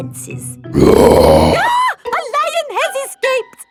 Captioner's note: roars; screams